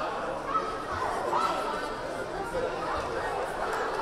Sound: crowd chattering

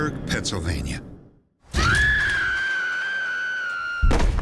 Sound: woman screams

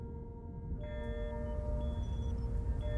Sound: distant machine sounds

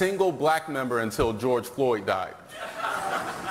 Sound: laughter

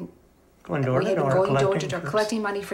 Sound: pat

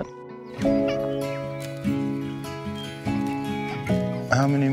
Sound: children laughing

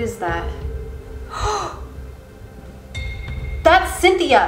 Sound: gasping

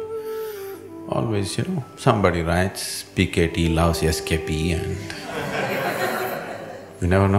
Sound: laughter

